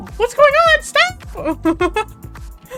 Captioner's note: giggles